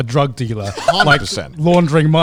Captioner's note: laughs